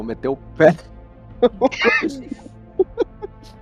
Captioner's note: risos